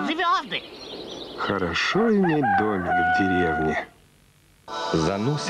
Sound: rooster cry

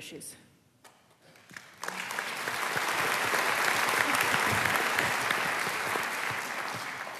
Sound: applause

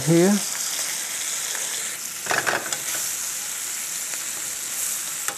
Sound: food sizzling

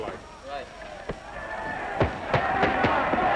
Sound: cheering

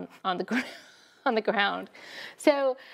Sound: laughs

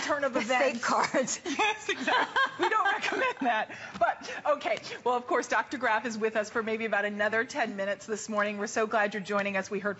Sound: laughter

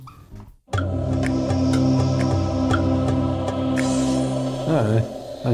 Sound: chime plays

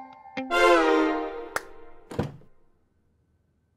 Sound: door opens

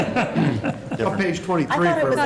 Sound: laughter

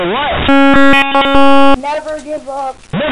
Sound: beep

